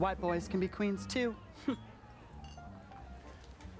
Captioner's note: scoffs